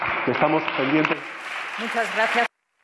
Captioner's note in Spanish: Aplausos